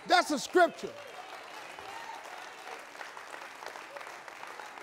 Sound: audience cheering

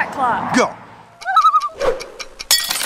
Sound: loon call

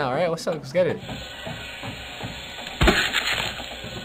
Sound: saw whirring

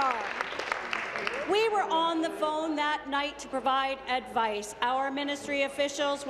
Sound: applause

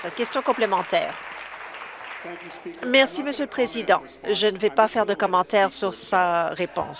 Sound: some Applause

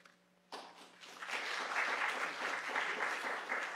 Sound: applause

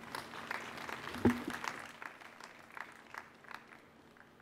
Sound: audience applauding

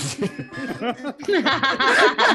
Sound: laughter

